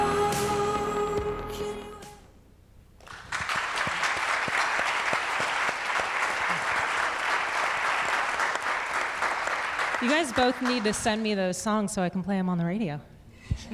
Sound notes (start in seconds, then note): 3.0 audience clapping